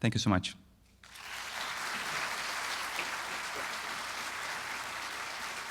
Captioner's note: audience applauding